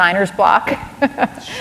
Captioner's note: laughter